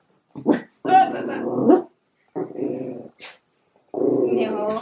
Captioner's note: Hazel barks and growls